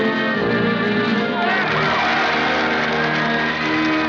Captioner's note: applause